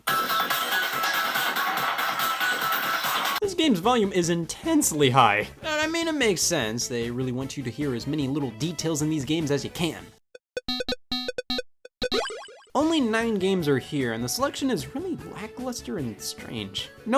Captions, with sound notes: (upbeat music) This game's volume is intensely high. I mean, it makes sense. They really want you to hear as many little details in these games as you can. (video game beeps) Only nine games are here, and the selection is really lackluster and strange.